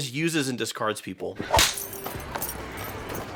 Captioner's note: slap